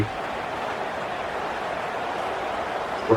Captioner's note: crowd Noises